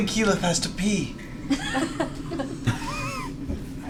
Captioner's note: laughter